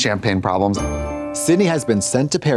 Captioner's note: bright chime